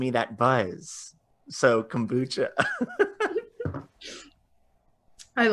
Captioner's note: laughing